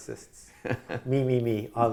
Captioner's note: laughs